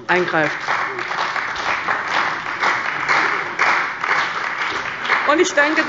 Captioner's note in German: Beifall bei der CDU und dem BÜNDNIS 90/DIE GRÜNEN